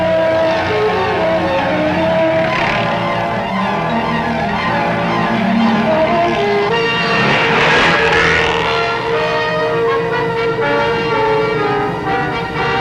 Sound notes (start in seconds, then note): 7.4 tires screeching; 9.9 dramatic music